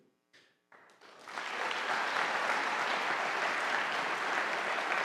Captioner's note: audience applauding